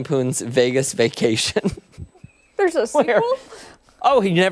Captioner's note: laughter